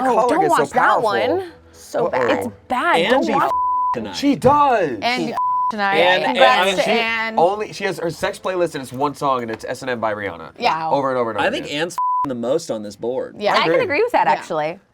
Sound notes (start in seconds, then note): 5.3 beep; 11.9 beep